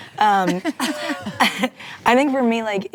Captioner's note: ladies reacting